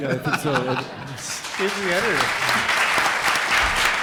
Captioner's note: audience claps